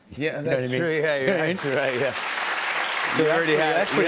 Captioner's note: applause